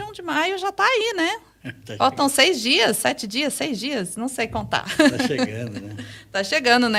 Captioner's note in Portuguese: risadas